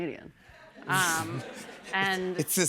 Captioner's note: laughter